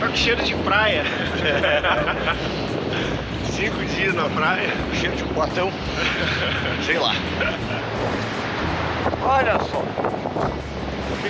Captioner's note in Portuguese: risadas